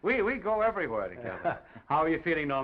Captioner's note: Oliver laughs